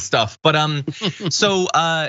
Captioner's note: laugh